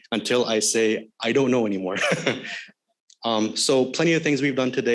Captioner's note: chuckles